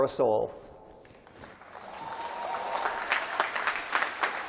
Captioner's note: applause